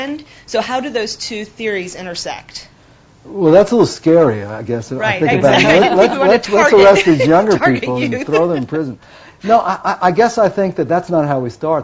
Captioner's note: laughter